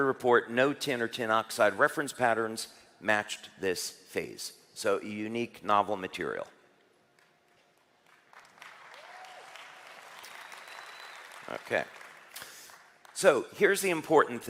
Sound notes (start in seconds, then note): 8.0 เสียงปรบมือ